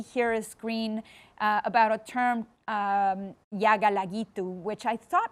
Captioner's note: speaks foreign language